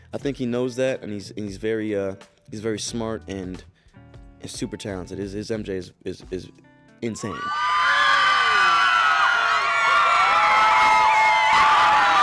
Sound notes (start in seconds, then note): 7.2 cheering